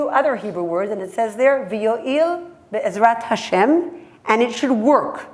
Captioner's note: hebrew